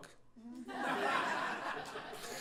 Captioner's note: laughter